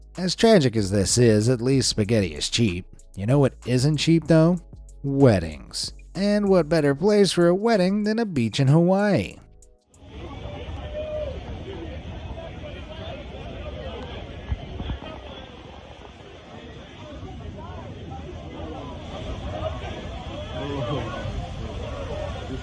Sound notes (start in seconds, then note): 10.5 guests chattering